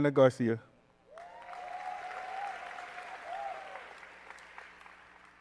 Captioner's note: applause